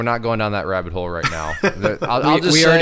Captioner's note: laughs